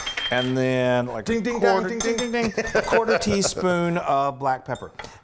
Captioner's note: laugh